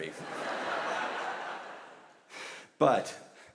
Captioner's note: audience laughs